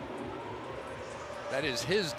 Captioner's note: siren blaring